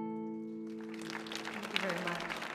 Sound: audience applauding

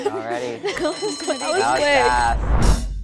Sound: bell rings; timer ticking

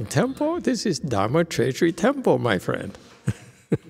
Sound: laughs

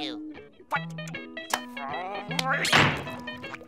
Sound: groaning

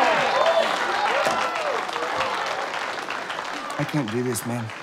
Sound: crowd cheering and applauding

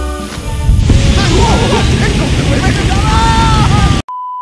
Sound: fire Sound Effects

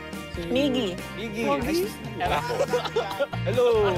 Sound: chuckling

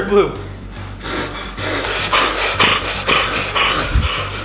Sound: breathing hard

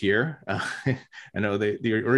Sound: chuckles

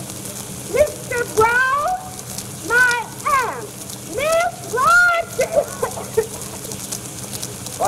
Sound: coughs

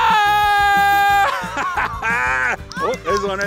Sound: dad yells in excitement

